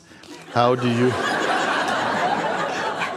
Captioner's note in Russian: смех